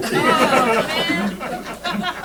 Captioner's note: laughter